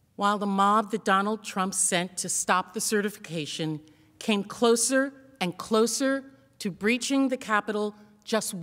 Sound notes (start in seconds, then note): 2.2 yelling